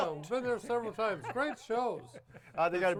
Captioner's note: laughs